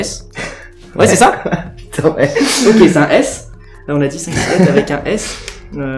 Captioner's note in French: Rires